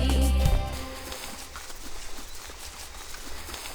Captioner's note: grass rustling; birds chirping